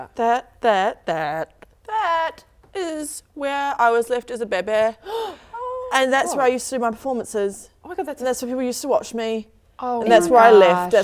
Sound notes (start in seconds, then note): 5.0 gasp